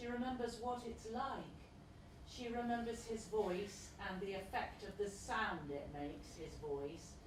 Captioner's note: Voice shouts: Loic!